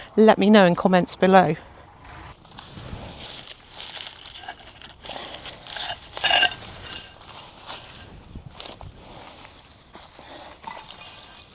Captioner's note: clanking sound of tiles being knocked together as they are collected